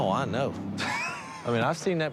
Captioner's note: laughs